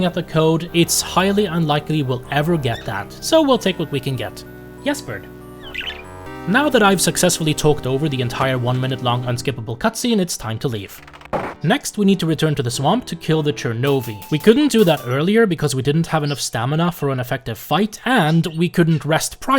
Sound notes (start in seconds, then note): 5.6 chirp!